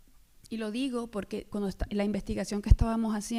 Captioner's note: speaking spanish